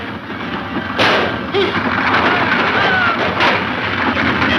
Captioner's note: shot fires